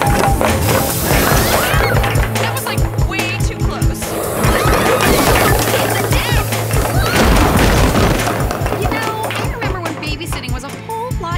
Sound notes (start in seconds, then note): 6.9 screams